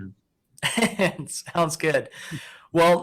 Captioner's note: giggling lightly